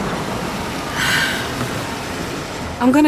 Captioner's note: sighs